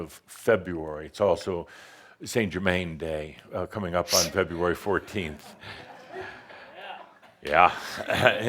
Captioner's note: a few chuckles